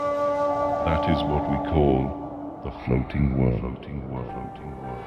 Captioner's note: echo